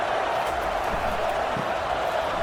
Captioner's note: crowd Noises